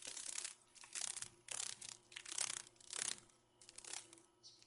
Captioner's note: sounds of a dragon fly